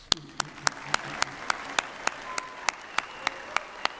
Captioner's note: applause